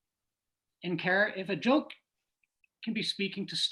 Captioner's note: none